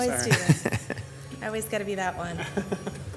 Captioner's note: laughs